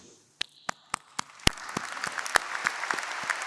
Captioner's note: applause